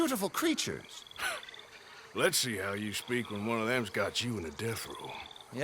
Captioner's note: laughs